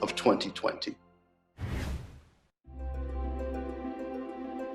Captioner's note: air whooshing